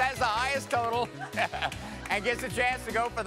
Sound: chuckles

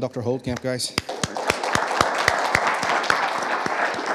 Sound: audience applauding

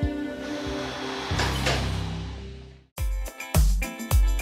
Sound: dramatic music; exhales deeply

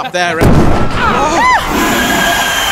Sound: boom!

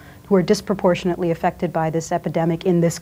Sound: none

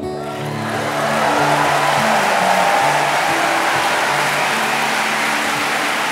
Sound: audience applauding and cheering

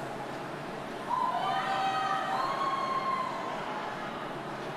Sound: audience cheers

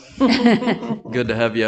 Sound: group laughing

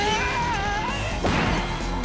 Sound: grunting; screaming

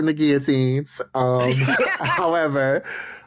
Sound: laughing

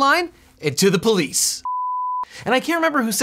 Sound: beep

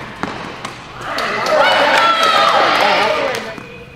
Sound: audience cheers

